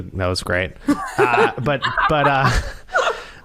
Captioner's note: laughter